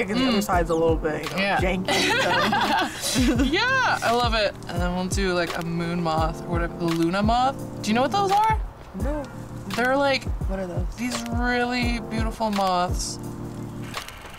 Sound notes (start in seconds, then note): 1.8 laughs